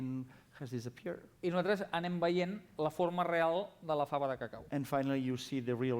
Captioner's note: non-english speech